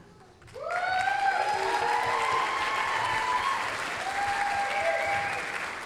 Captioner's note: applause, cheering